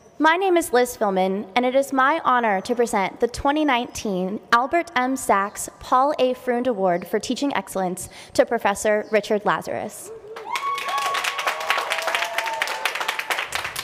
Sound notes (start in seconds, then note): 10.3 cheering, applause